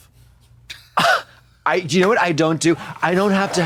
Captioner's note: Trixie giggles